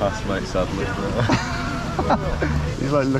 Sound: laughs

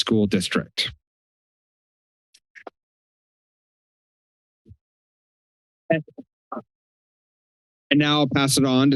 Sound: pause

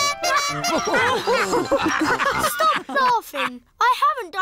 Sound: toots horn; all laugh

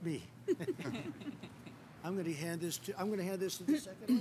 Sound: laughter

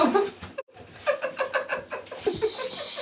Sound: Jade laughs loudly

